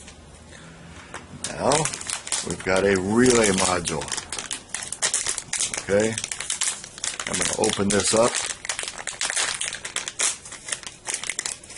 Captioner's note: lots of crinkling noise